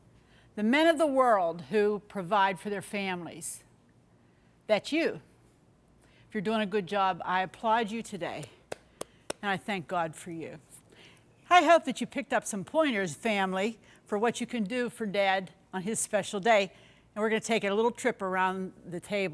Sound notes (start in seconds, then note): 8.7 clapping